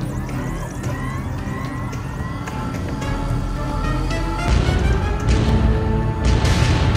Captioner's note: warp engines engaging